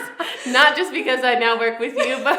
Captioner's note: laughing